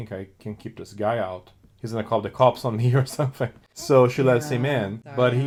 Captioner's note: laughs